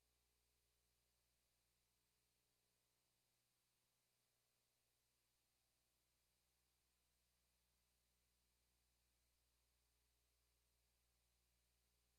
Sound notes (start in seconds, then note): none